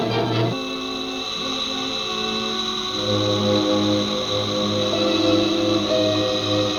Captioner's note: suspenseful music continues; gas hissing; ominous music